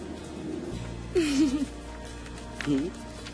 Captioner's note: laughs